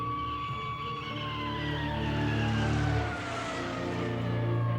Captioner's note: ambulance sirens blaring